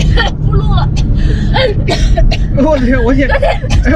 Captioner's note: cough cough cough